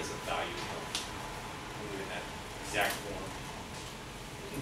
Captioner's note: speaks softly